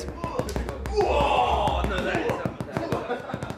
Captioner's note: men chattering; drums music